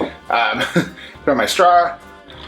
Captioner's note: laughs